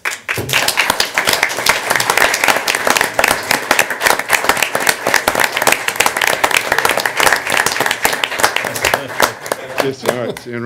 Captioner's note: applause